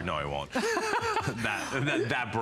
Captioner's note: laughter